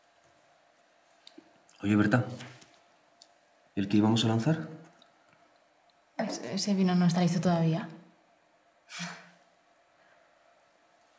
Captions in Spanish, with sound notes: Oye Berta… ¿El que íbamos a lanzar? Ese… ese vino no esta listo todavía [Berta suspira]